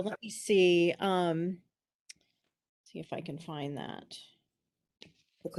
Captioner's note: none